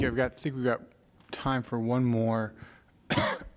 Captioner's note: coughs